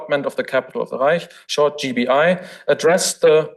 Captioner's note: foreign language